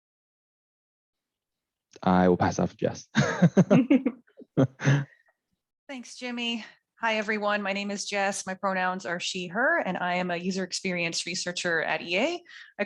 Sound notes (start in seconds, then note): 3.1 laugh